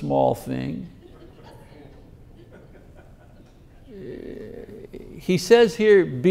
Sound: congregation laughing

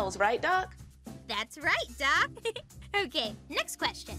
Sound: giggles

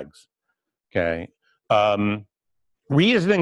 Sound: pause

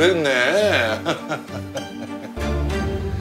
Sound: chuckling

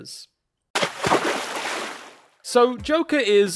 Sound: water splashing

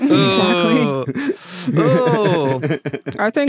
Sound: scattered chuckling

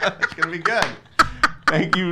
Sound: laughing; claps

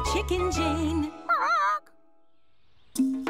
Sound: squawks pitifully

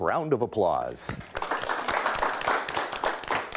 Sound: clapping

